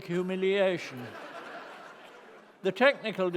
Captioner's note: laughter